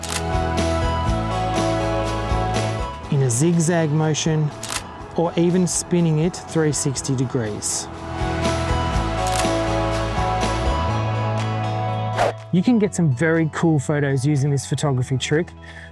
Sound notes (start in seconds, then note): 0.0 camera shutter click and music; 4.6 camera shutter click; 9.1 music and camera shutter click